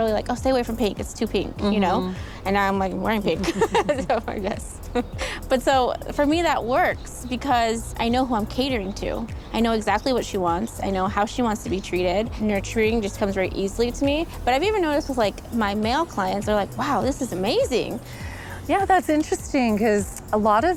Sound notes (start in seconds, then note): 3.1 laughing